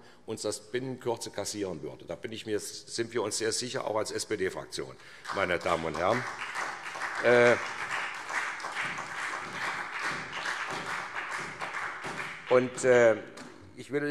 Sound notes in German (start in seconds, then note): 7.7 Beifall SPD